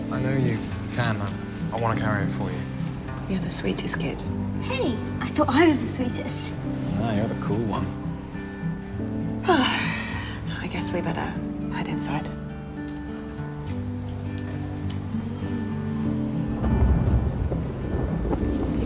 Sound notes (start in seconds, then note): 6.4 sighs; 13.6 thunder rumbles